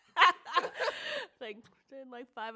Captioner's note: both laugh